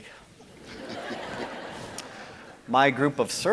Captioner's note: audience laughing